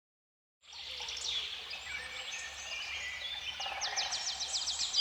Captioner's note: birds chirping